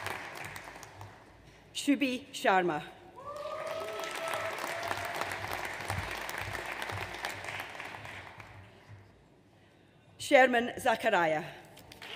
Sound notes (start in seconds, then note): 3.2 audience cheers